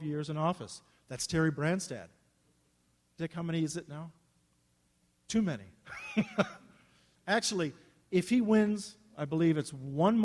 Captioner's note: laughs